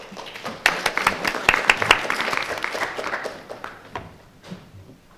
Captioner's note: audience applauds